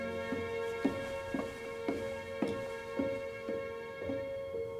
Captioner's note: gentle music continues; muted footsteps thudding